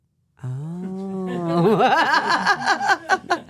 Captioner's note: laughs